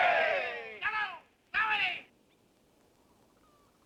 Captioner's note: men shout in unison; man shouting in foreign language